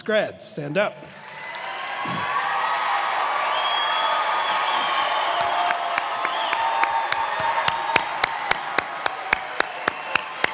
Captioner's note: cheers and applause